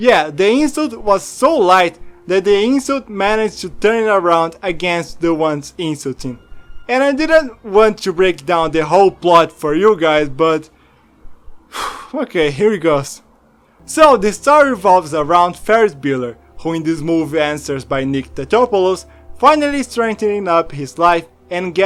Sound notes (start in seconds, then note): 11.7 sigh